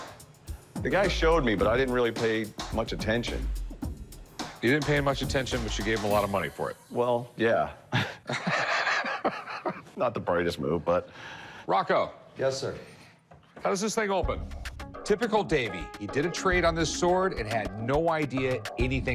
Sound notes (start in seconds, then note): 7.9 laughter